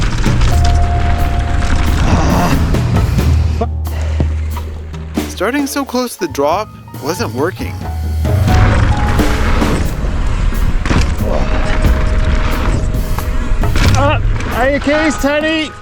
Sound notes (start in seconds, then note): 1.8 frustrated groan